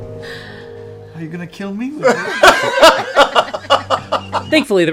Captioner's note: laughter